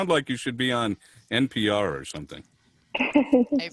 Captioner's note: laughter